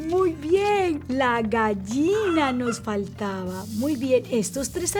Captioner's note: chicken squawks